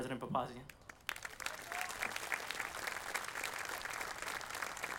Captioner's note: audience applauding